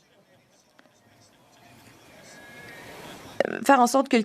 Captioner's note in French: voix de l'interprète